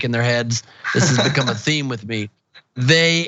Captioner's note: laugh